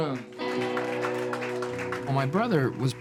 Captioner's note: audience applauding